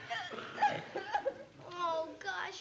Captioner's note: crying